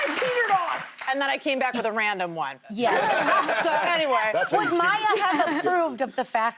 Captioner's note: cheers and applause